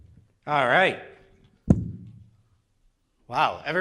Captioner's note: microphone thuds